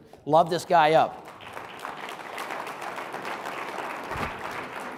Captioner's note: audience applauding